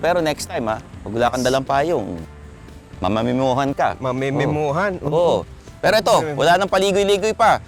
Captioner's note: none